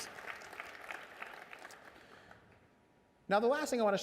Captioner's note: applause